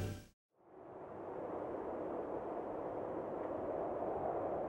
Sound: wind blowing

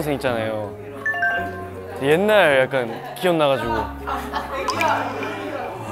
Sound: choking up

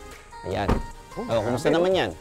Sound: door thuds

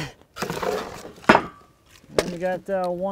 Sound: metal clanging

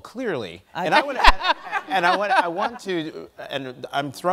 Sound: laughs

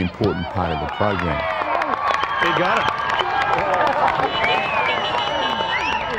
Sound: cheering and applause

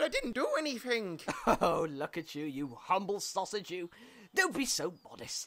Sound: chuckles

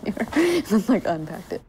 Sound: laughing

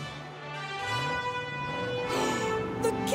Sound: gasping

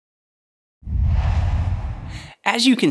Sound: logo swooshes

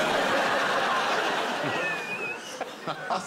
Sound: laughter

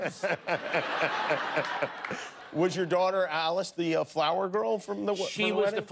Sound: laughter

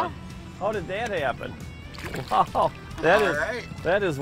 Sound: laughing

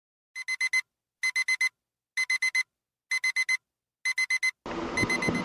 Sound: ringing alarm clock

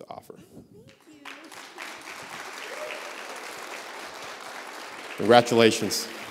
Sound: applause

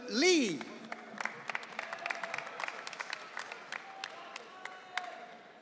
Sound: audience cheering

